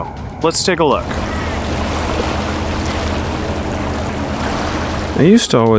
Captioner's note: ducks quacking